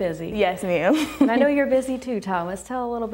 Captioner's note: laughs